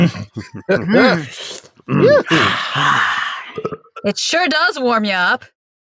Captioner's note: sounds of satisfaction as they drink